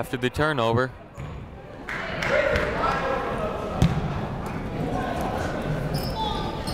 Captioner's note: people shouting in the crowd